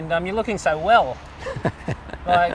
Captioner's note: laughs